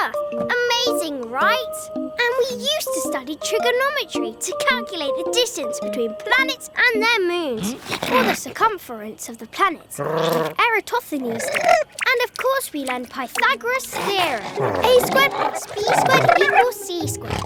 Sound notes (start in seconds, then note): 10.0 Big Lizard purring; 11.3 Ammon chittering